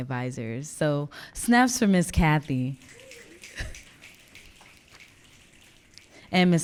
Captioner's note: audience clicking